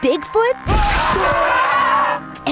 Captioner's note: screaming